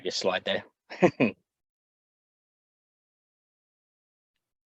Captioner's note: chuckles